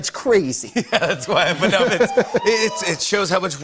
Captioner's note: laughing